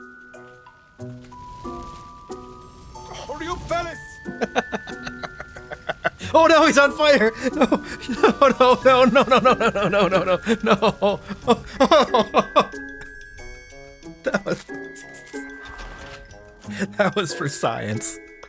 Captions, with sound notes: [LAUGHTER] Oh no, he's on fire! Oh no no no no no no no no no no no [laughs] That was for science.